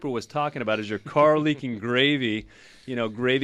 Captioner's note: laughs